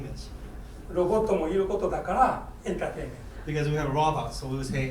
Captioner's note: speaking in foreign language